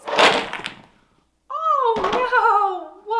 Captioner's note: blocks clatter